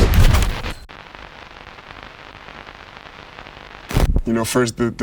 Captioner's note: static crackling